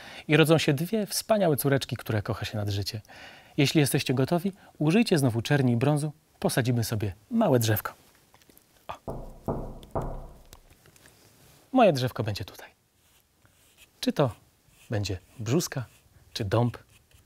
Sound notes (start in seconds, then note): 9.0 konocking noises